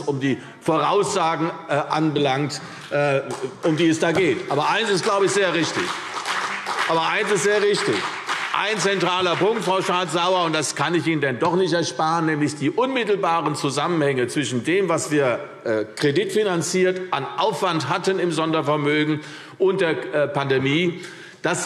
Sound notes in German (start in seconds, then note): 4.8 Beifall CDU und BÜNDNIS 90/DIE GRÜNEN